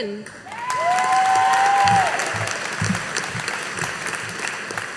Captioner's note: audience applauding